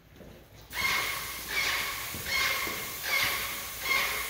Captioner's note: sprayer spraying